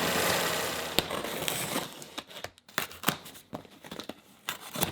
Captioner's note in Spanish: cartón crujiendo